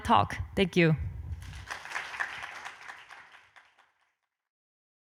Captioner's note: audience applauding